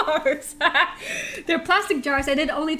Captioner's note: laughter